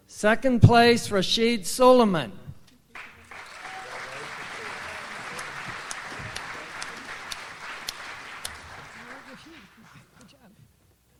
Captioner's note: audience applauds